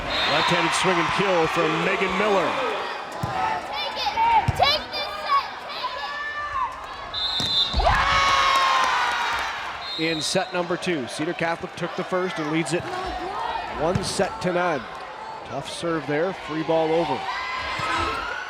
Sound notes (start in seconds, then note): 7.1 whistle blows; 7.3 crowd cheering